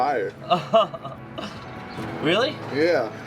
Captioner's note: laughs